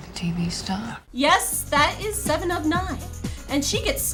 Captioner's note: voiceover